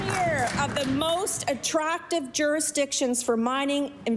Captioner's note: applause